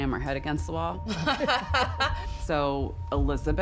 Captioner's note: laughter